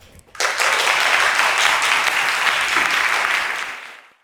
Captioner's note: applause